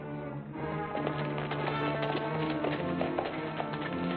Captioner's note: horses trotting